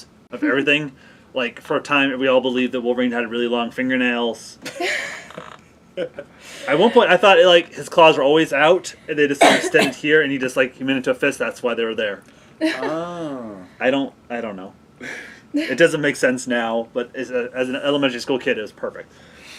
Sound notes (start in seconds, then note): 6.0 laughs; 12.6 laughs